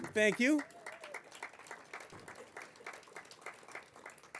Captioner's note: applause